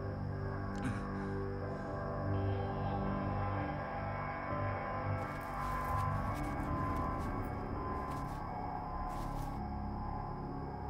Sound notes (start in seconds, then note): 0.8 gasps in pain